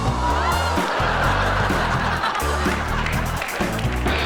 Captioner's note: audience laughs